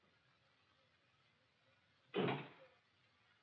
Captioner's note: door shuts